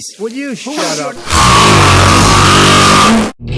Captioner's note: le snort grande!